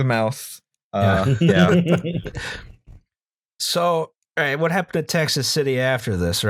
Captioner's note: laughter